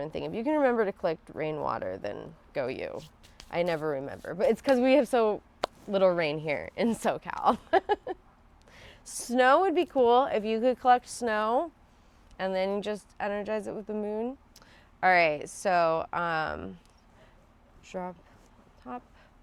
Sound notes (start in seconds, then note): 7.6 laughs